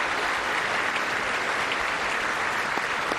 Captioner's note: applause